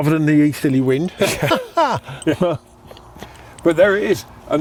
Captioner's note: laughing